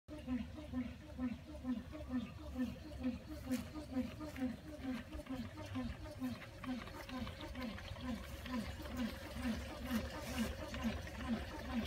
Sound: The sound of the SF1 Solar Water Pump running and water flowing

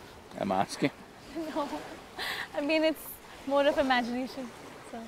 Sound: laughs

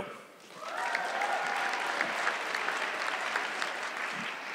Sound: audience clapping

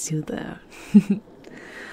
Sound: you can't help but smile at her brief, girlish laughter

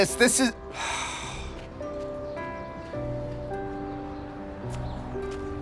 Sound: sighs

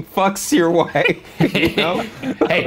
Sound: laughing

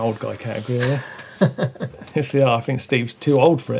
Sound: laughs

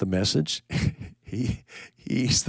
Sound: chuckling

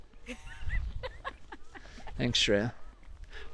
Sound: chuckling

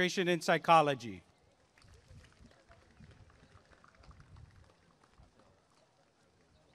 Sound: applause and cheering

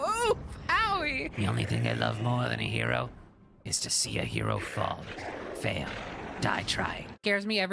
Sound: Green Goblin Voice

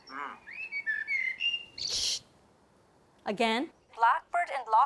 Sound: bird singing stridently

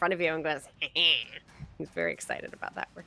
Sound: mimics laugh

